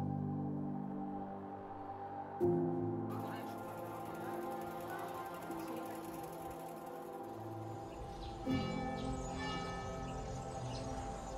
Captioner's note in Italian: Applauso